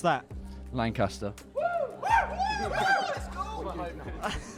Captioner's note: cheering; laughter